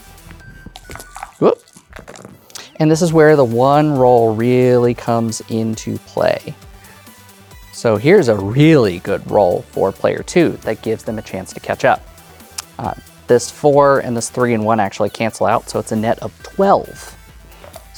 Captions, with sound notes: Whoop! (dice rattling) (dice rolling) And, this is where the one roll really comes into play. So, here's a really good roll for player two, that gives them a chance to catch up. Uh... this 4 and this 3 and 1 actually cancel out. So, it's a net of 12.